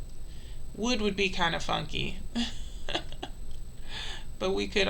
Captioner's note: laughs